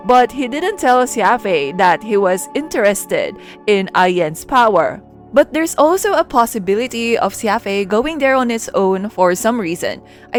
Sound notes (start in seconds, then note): none